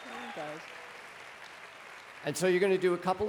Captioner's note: applause